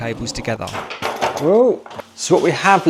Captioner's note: items banging